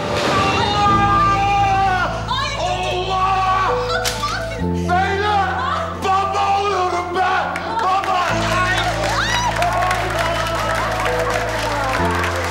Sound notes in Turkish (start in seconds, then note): 9.9 Alkışlıyorlar